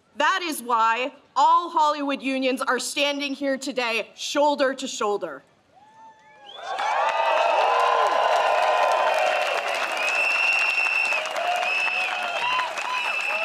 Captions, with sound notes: That is why all Hollywood unions are standing here today, shoulder to shoulder. (crowd cheers)